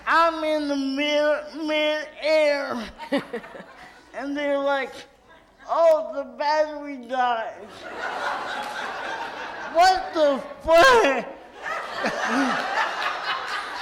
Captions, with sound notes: I'm in mid-air, and they're like, "Oh, the battery died." (audience laughs) What the feh? (loud laughter in audience)